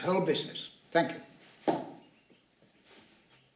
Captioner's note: stomps foot